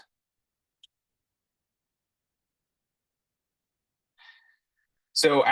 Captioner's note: silence